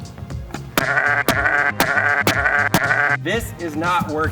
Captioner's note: sheep bleats